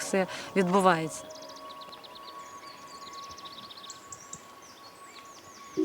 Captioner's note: birds singing